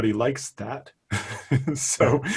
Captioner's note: laughing